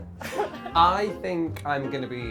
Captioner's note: laughing